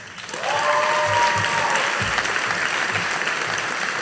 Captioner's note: audience applauding